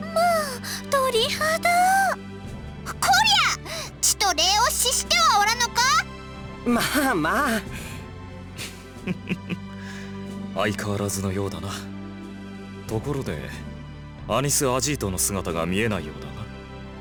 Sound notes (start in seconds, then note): 8.6 chuckle